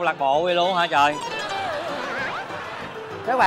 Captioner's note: laughing